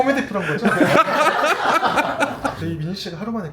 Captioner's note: laughs